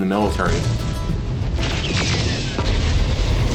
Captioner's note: explosions and gun shots